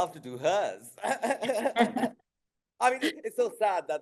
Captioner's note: both laughing